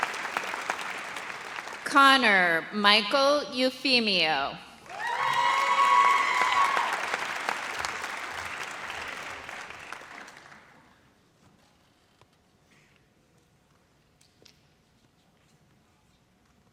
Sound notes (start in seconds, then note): 4.8 audience cheers